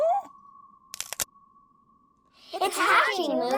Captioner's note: eggshell cracks